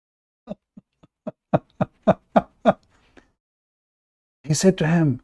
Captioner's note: Ketawa